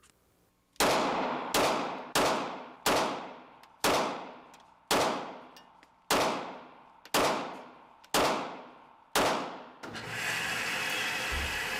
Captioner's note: gun shots